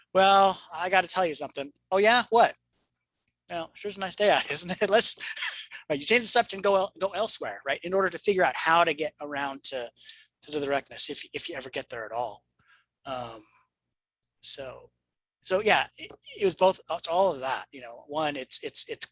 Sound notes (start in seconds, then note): 5.1 chuckles